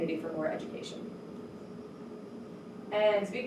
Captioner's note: air conditioner hums